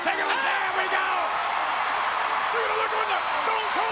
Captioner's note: crowd cheering